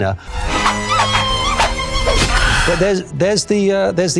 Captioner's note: tongue trill